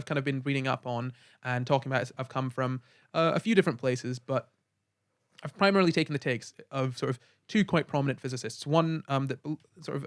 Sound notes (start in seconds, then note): none